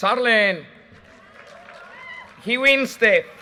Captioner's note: audience cheers and applause